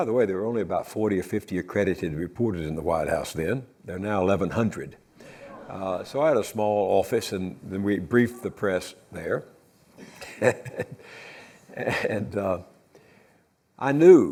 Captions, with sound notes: There are now 1,100, so I had a small office, and we'd brief the press there (laughs). I knew we had carefully arranged for the President to go to